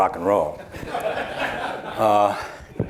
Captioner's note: laughter